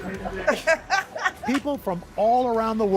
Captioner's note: laughter